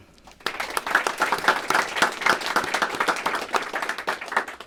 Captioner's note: applause